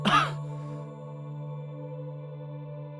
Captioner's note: coughing